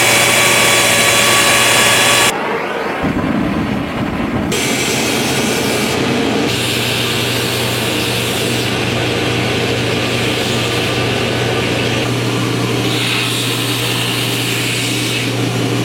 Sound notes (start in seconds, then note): 0.3 forge torch whhring; 6.3 sizzling